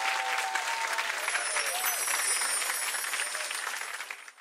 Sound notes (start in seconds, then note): 0.0 audience clapping; 1.2 chimes tinkling